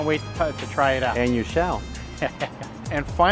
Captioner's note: chuckles